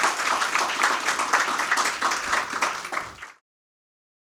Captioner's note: audience clapping